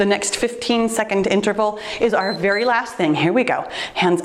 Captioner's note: timer beeps